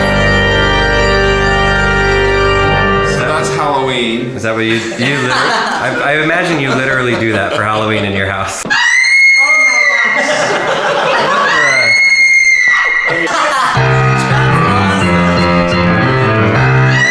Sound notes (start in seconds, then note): 0.0 laughing; 0.0 ominous chord; 11.2 high pitched screaming; 11.7 laughing; 13.7 upbeat piano music